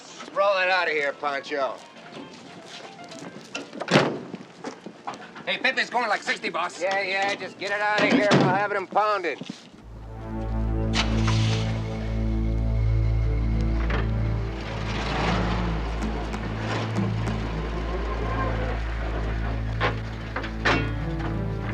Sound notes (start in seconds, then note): 3.8 door slams; 9.8 suspenseful music